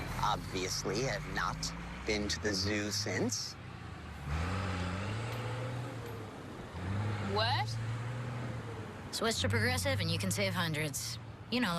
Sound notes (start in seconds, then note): 4.4 truck departs